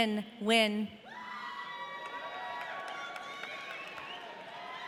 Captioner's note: audience cheering